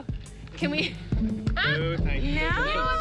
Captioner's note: laughter